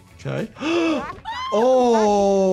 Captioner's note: gasping